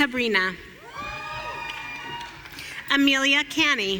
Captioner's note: audience cheering